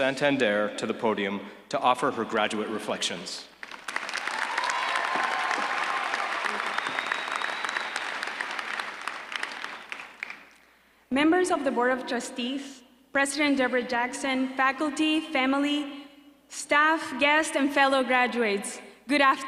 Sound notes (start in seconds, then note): 3.5 applause